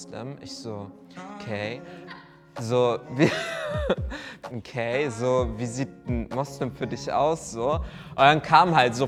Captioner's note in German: lacht